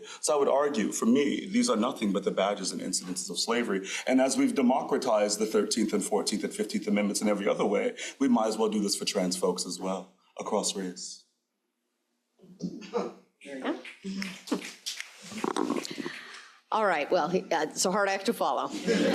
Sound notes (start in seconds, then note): 12.4 crowd applauding